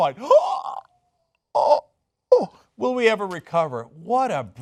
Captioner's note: gasps